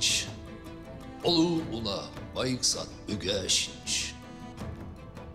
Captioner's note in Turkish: Moğolca konuşuyor